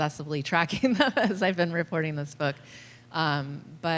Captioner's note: laughter